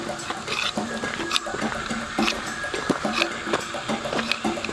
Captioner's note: upbeat music; stone scraping continues